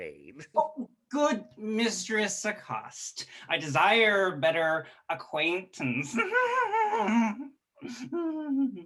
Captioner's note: giggles